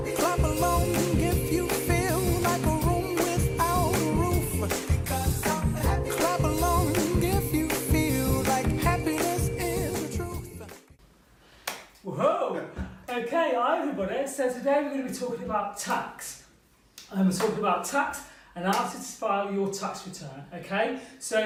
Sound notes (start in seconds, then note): 11.6 clapping